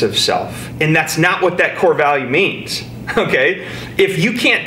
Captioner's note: snickers